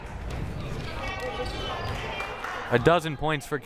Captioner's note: crowd murmuring